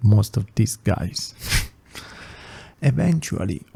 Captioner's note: sigh